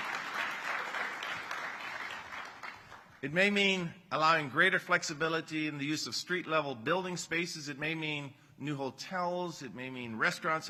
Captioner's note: applause